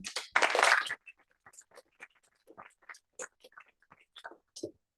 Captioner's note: applause